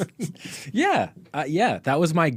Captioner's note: both laughing